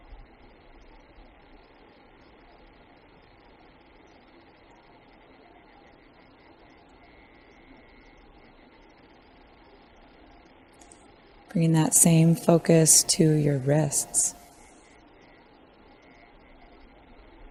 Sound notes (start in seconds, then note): 1.3 silence